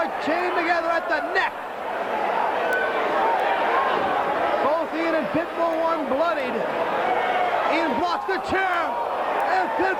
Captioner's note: crowd chatter